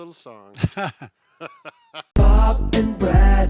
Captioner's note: laughter; upbeat theme music